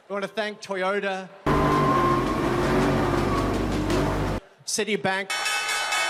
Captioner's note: loud roaring engine; clanging bell and cheering